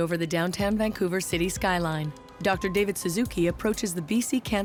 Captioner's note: cars honk, traffic noise